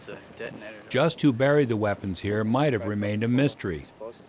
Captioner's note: voiceover